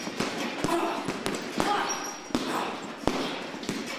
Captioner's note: grunting